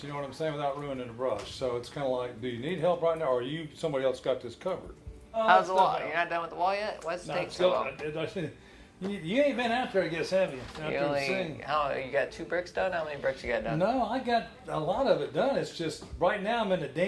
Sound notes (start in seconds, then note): 8.6 stutters